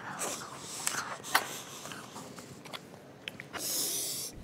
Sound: utensil scraping; heavy breathing

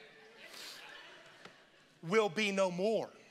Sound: congregation laughing

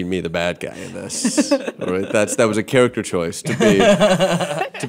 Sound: laughing

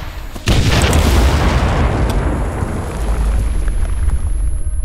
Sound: artillery booming; earth clods rattling

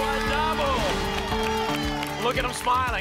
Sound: applause and cheering

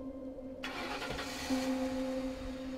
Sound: engine starting

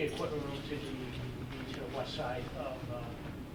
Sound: faintly speaking

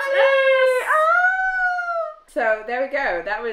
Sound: squeals excitedly

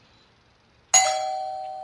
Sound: doorbell

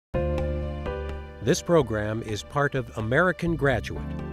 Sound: voiceover

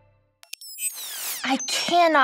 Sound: screen squeals

